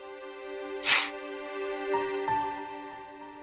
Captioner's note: sniffles